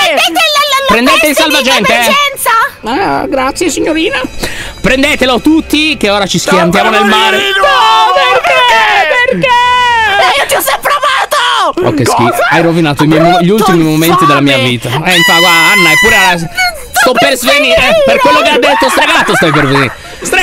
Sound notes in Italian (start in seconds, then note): 10.8 urlando; 15.0 urla